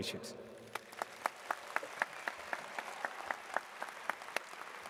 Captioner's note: audience claps